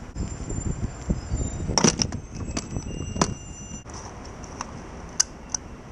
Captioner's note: gas nozzle holstering